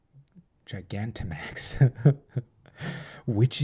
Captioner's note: chuckles